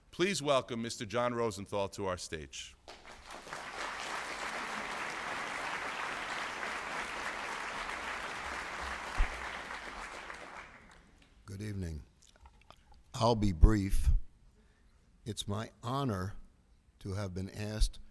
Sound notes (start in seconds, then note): 2.8 applause